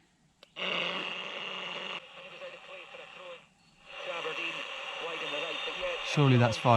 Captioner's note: radio static slowly becoming clearer